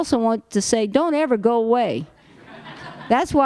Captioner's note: laughter